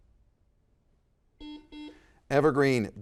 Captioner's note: buzzer dings